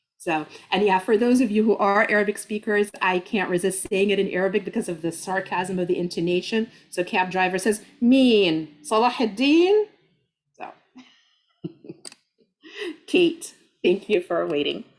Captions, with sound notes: So, and yeah, for those of you who are Arabic speakers, I can't resist saying it in Arabic because of the sarcasm of the intonation. So cab driver says, "[speaking Arabic]" So, [laughs] Kate, thank you for waiting.